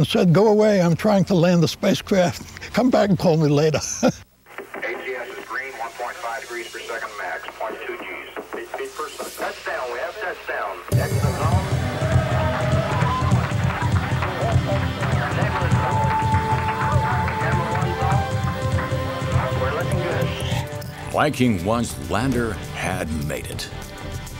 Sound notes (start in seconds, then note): 14.0 clapping